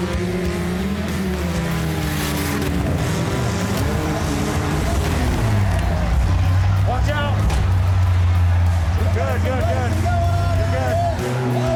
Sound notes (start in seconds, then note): 3.6 cars impact, crowd cheering; 7.1 impact